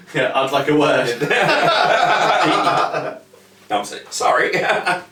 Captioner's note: laugh heartily; laugh heartily